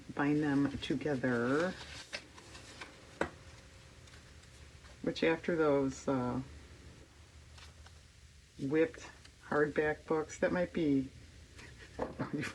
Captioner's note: laughs